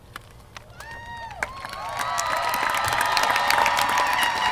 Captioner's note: applause